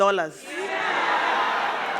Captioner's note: crowd; crowd laughing